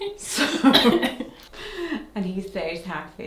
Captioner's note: both chuckling